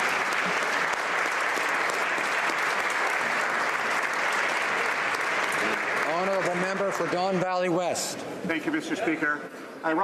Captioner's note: applause